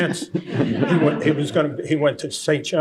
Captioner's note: laughter